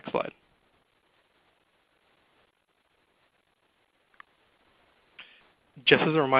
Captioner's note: silence